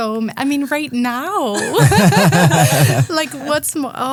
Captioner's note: group laughing